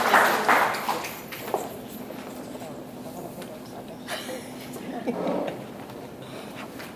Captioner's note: audience chatters; audience laughs